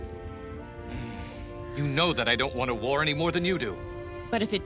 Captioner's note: sighs